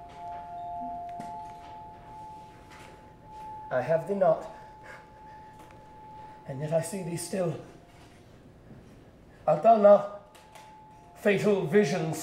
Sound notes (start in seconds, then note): 4.3 whining noise